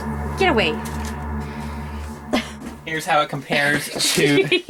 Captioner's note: laughs